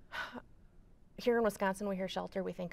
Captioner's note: sighs